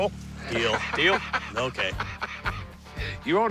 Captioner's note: laughs